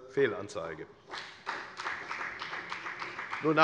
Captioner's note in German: Beifall bei der FDP